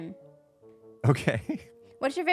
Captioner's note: laughs